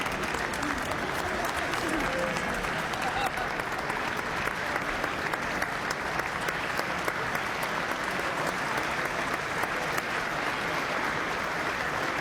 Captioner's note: applause